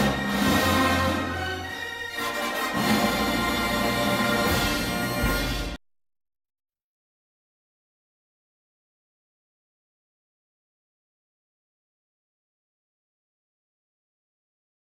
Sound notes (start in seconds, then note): 2.1 fanfare ends; 6.2 silence